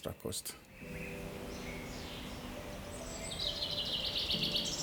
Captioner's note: birds chirping